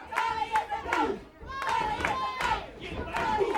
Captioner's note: crowd chanting